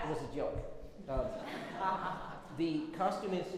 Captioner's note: everyone laughs